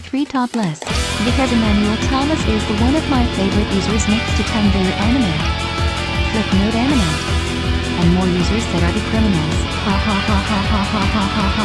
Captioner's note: laughs